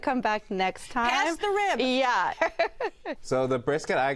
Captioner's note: laughs